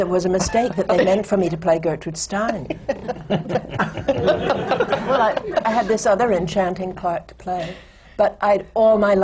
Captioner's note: laughter; laughter